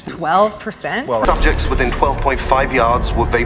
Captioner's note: computerized Voice